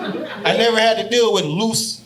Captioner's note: audience laughing